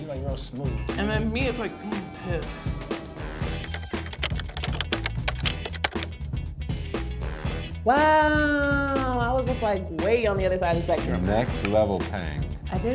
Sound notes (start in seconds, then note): 3.6 typing; 3.7 upbeat music